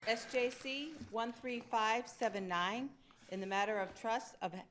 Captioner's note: pages rustling